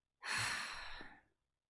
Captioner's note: sigh